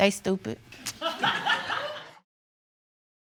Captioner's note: laughter